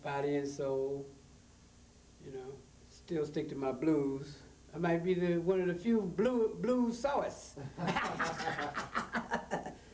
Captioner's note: laughs